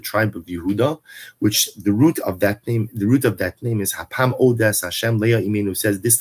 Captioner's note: Hebrew